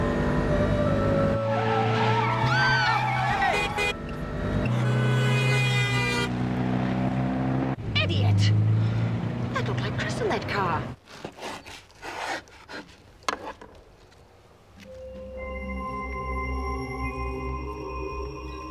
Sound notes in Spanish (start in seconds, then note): 2.0 gritando; 2.0 rechinar de llantas; 3.0 bocinas de los autos; 11.1 raspado de cuchillo; 14.8 música espeluznante